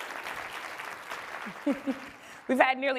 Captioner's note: applause